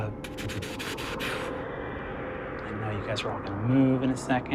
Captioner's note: imitates rumbling